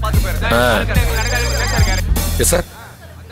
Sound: phone ringing

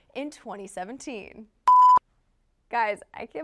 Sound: beep

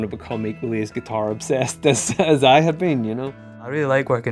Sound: laughing

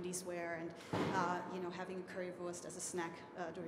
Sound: speaking foreign language

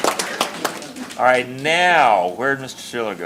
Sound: applause

